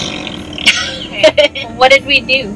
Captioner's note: blows raspberry; laughs